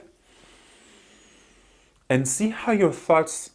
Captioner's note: breathes in